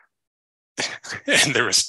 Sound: chuckles

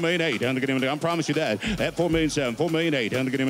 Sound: auctioneer calling

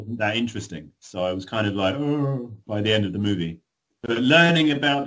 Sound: yawns

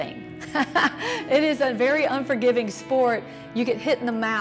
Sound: laughs

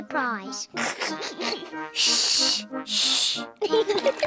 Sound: giggles; both laugh

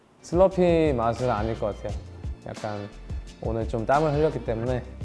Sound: speaking in Korean

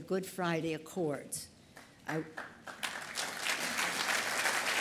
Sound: applause

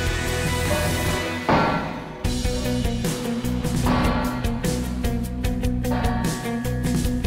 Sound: air whooshing; bright music; metal clanking

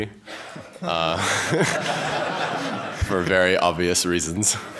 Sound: laughter

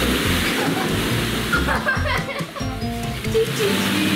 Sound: laughs

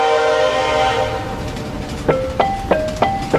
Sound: train whistle blows; train rattling; percussive tonal music

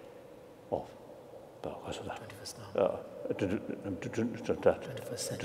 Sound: speaking foreign language

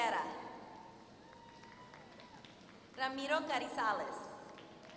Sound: applause; applause

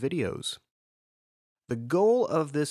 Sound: pause

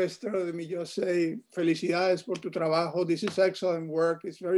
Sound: speaking in foreign language

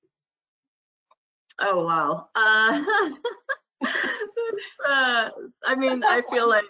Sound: laugh; laugh

